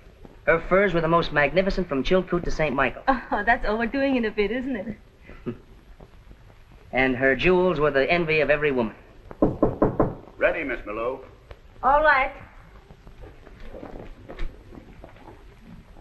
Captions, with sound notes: Her furs were the most magnificent from Chilkoot to St Michael." That's overdoing it a bit, isn't it? "And her jewels were the envy of every woman." - [ KNOCKING ON DOOR ] - Ready, Miss Maloof. All right.